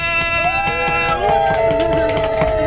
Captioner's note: woooos and clapping